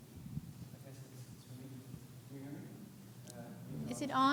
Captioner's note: speaker whispering